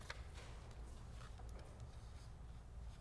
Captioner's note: papers Rustling